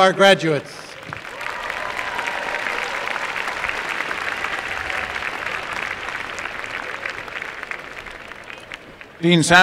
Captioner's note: applause and cheering